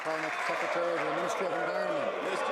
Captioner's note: some Applause